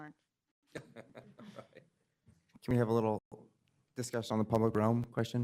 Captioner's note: laughter